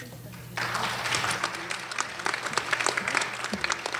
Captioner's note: applause